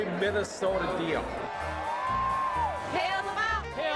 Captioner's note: cheering